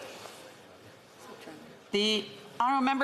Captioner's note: speaking French